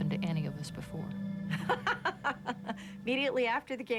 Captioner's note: laughing